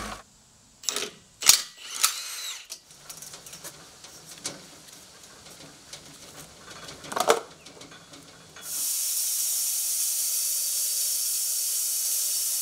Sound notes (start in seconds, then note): 1.4 drilling; 8.6 sawing